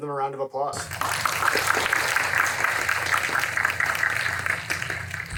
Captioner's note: audience applauding